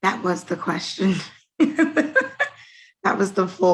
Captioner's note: laughing